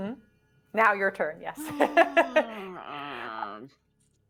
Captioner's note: laughing